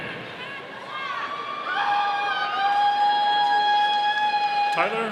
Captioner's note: audience cheering